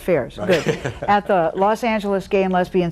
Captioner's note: chuckles